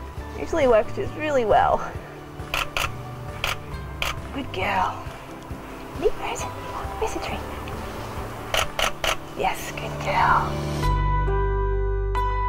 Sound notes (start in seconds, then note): 2.5 camera shuttering; 8.5 camera shuttering